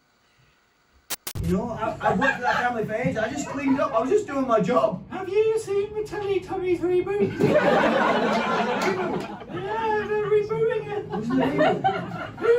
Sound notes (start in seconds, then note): 1.0 static glitch